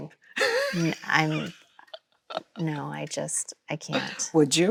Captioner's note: Chloe laughs